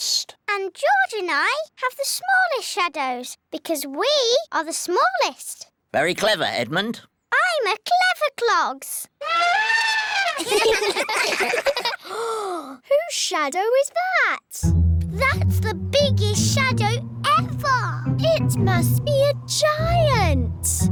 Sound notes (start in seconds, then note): 9.2 trumpets; 10.1 all giggle; 12.0 gasps